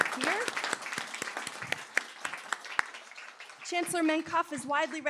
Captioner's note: applause